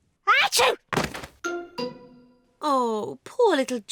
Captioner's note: sneezes